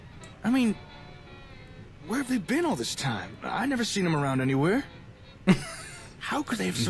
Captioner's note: laughs